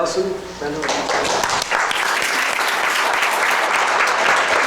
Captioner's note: clapping